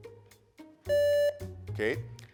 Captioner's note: buzzer beeps